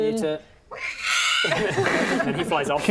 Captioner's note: accurate Queztal screech